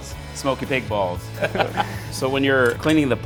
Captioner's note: laughter